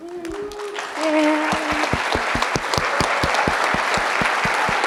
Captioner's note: audience applauding